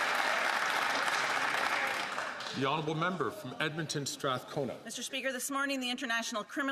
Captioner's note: some Applause